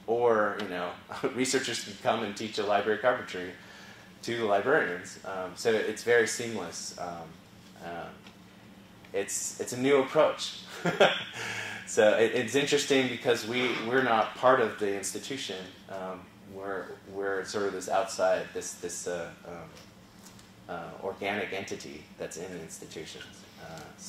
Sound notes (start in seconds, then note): 10.3 laugh